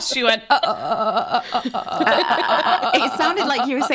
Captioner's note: mimicking stuttering audio